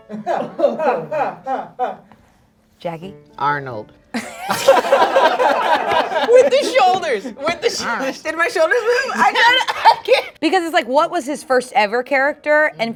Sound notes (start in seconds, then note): 0.0 quirky music; 0.1 laughing; 4.1 group laughing; 10.0 laughs